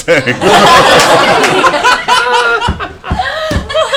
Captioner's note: laughter